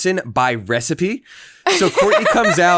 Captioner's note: laughing